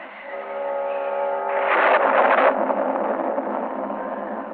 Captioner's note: thunder rumbling